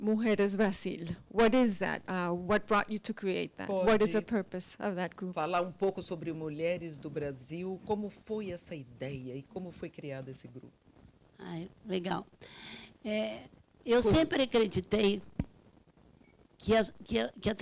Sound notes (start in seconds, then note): 0.2 speaks Portuguese; 5.6 translator speaking Portuguese; 11.6 speaking Portuguese